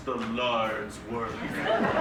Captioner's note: audience laughs